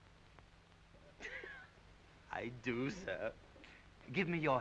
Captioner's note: Audrey giggling